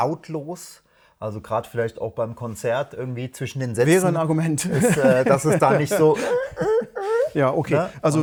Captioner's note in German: gelächter